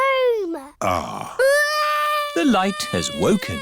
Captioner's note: crying